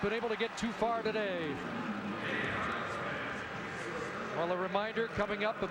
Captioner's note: applause